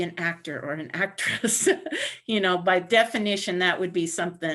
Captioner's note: laughter